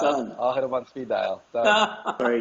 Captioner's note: laugh